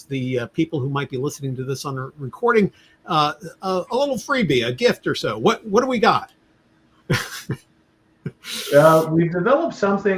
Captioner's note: laughter